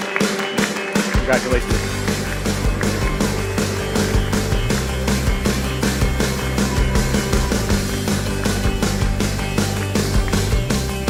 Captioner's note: applause